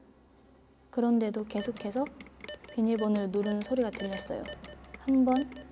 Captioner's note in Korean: 틀려도 계속 누르는 듯 반복되는 소리